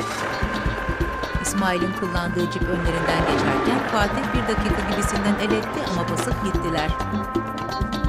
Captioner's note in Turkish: Araba sesi